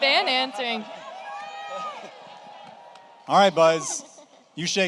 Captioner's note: audience cheers